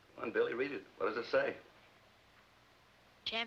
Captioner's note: none